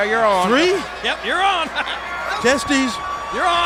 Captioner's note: laughs